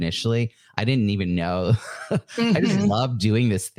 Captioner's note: laughs